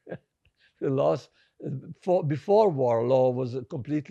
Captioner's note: laughing